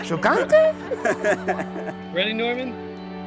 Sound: driver laughs; speaks Italian

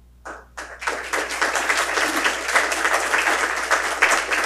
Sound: audience applauds

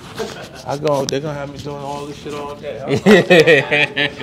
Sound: laughs

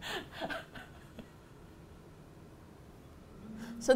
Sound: both laugh; laughs breathlessly

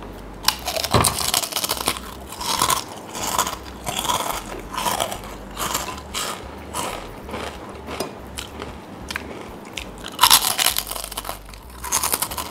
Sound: nom

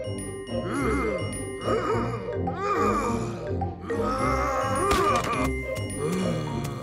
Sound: angry bear noises

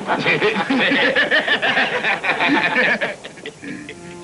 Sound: laughter; tense music

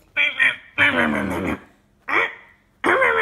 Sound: chomping

